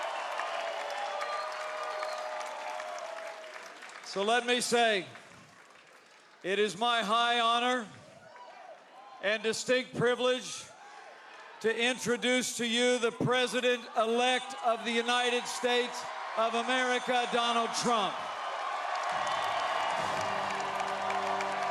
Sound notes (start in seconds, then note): 2.4 cheering